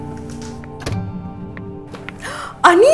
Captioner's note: Door closes